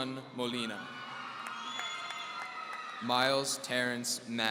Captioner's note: audience cheering